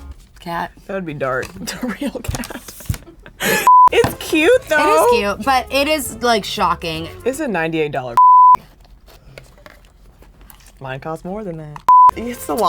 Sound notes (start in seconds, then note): 1.4 chuckles; 3.6 beep; 8.2 beep; 11.9 beep